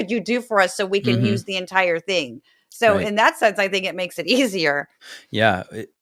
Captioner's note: laugh